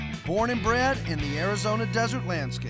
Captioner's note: none